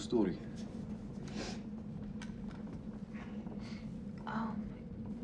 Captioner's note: Teplov sniffs